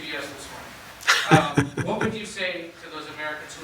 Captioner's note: laughs